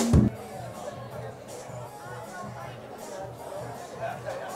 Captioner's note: chattering